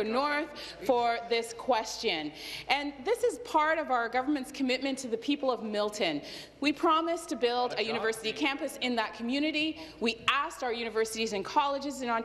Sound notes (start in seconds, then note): none